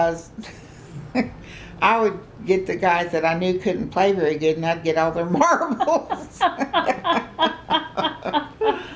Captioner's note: laughter